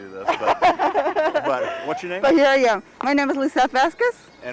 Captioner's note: laughing